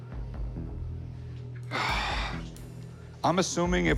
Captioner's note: sighs